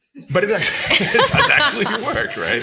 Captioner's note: all laughing